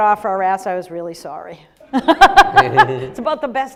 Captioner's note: Gina laughs